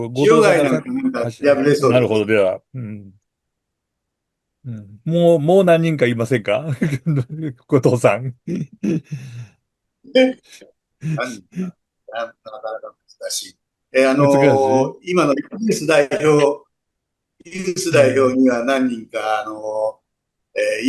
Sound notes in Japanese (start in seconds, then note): 6.6 笑い; 8.4 咳払い